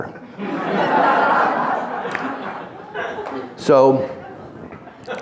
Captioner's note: audience laughing